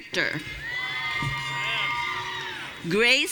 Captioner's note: audience cheering